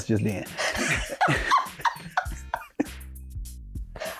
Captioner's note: laughing